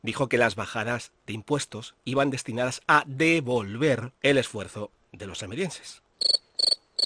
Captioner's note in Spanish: Sonido de grillos